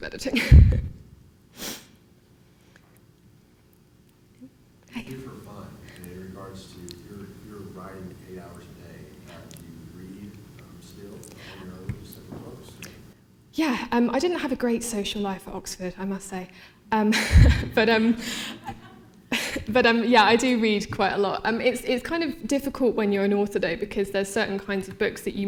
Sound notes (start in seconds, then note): 3.4 laughing; 18.5 laughter